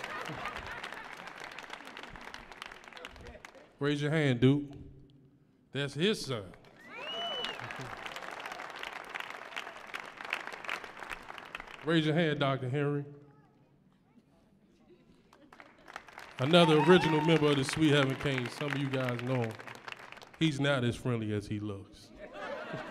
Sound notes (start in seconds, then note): 0.0 audience laughs; 6.8 audience cheering; 16.3 audience cheering